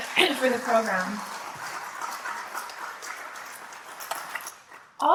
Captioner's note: applause